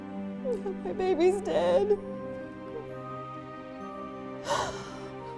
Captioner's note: gasps